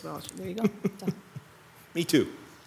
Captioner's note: laughs